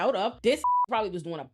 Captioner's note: beep